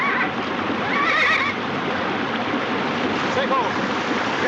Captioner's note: neighing